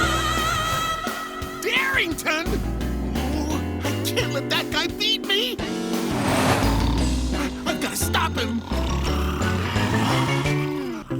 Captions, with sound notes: Darington?! Ooh, I can't let that guy beat me! I-I've gotta stop him! [snoring]